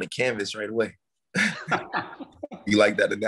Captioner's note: laughing